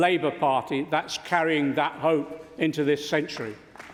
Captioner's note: applause